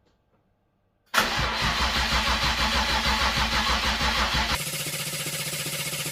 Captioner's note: engine starting